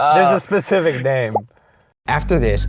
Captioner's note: voiceover